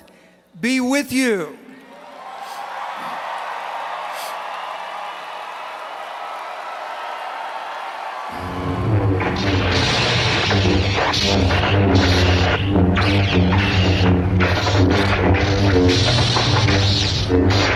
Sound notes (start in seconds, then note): 0.7 Lightsaber sounds; 1.8 applause